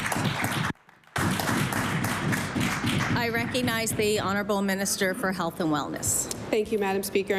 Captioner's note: applause